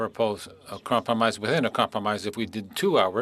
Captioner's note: speaking French